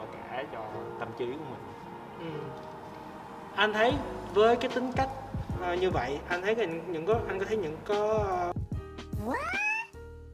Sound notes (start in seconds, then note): 1.8 stutters